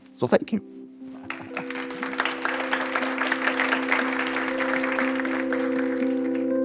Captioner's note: gentle bright music; audience applauding